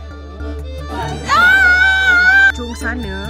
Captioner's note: scream